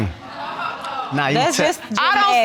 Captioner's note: audience exclaims and laughs